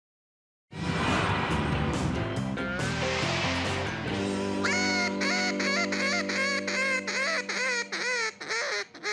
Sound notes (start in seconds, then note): 4.6 duck call quacking